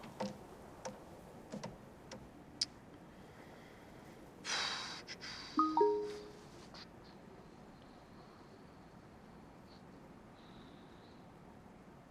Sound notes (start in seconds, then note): 0.2 hand tapping; 5.6 message dings